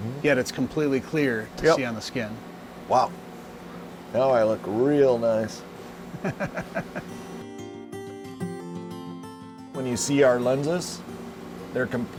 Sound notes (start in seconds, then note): 6.1 chuckles; 9.7 gentle music